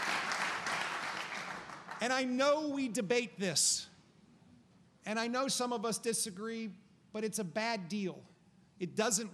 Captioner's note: applause